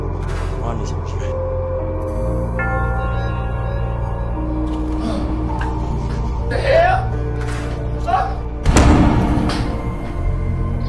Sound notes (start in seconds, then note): 0.5 Mississippi grumbling; 4.8 man gasping; 8.0 man yelling; 10.6 birds chirping; 10.6 foreboding music continues